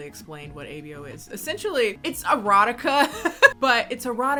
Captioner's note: laughs